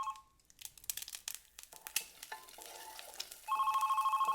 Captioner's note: phone ringing; eggs sizzling